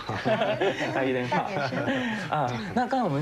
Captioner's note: laugh